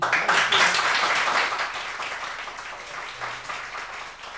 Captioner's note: applauding